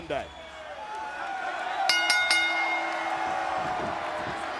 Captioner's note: bell rings